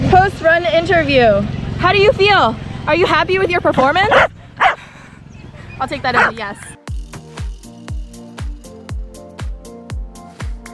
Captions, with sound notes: - First run interview. How do you feel? Are you happy with your performance? (dog barking) I'll take that as a yes. (dog barking) (upbeat music continues)